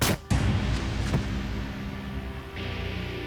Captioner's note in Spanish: Disparo